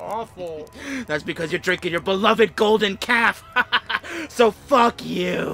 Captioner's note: gloating